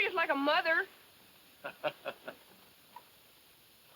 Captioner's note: laughs